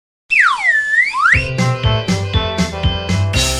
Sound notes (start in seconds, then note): 0.3 whistle